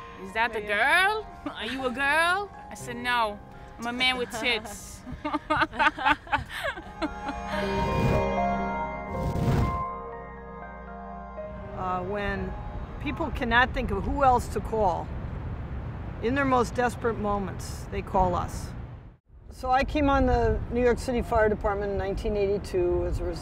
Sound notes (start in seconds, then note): 6.7 laughs